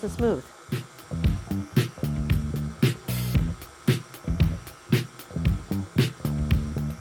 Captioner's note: upbeat music; mixer whirring